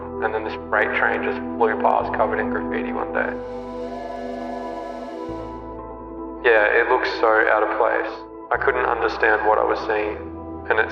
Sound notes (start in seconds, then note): 3.4 paint sprays